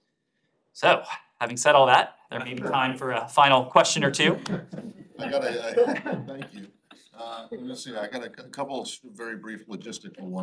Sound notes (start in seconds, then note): 4.2 laughter